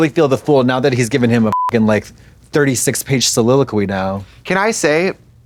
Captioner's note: beep